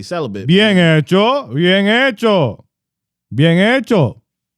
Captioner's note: speaking In Foreign Language